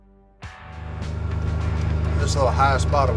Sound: car engine

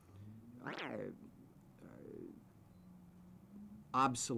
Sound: silence

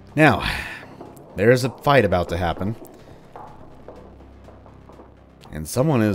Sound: rapid, clanking footsteps

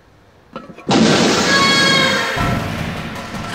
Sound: screaming; suspenseful music; air whooshing

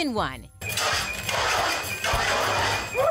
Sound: fire alarm ringing

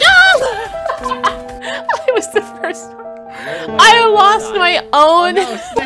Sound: laughter

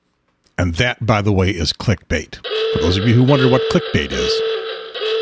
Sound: klaxon sounds

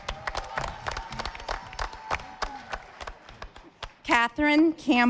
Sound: audience applauding

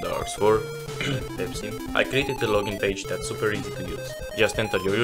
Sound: cough

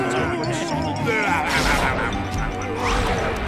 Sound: laughing

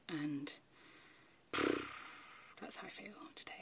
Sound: exhales loudly

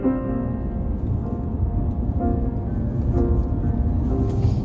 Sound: driving sound

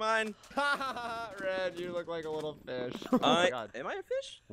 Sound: laughs

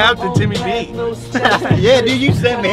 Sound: laughs

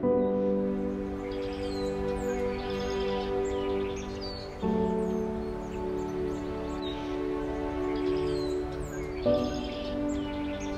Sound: bird song

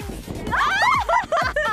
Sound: laughter

